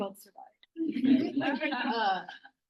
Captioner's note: laughter